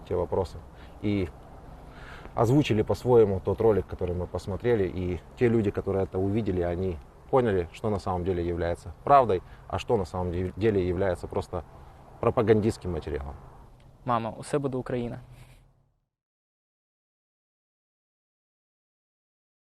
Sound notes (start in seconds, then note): 13.8 speaks Ukrainian